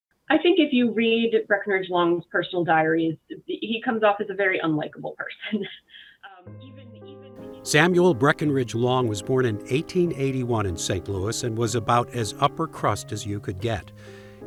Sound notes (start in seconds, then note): 6.2 laughing